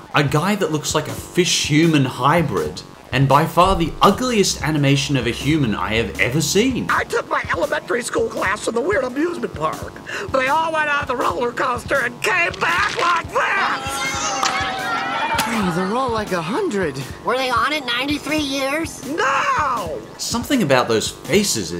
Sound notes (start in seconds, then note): 11.8 rattling; 15.4 kids chattering